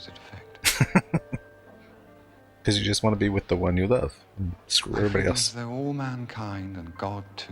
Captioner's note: chuckling